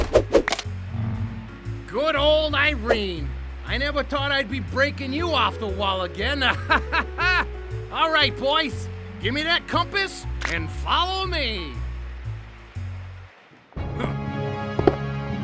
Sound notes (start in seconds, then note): 6.4 laughs; 14.0 grunts